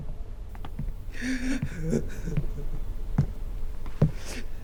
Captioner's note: sobs